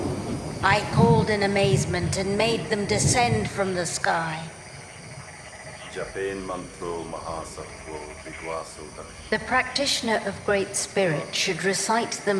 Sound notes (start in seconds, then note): 6.0 speaking in a foreign language